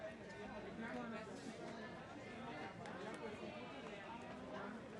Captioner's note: attendees continue chatting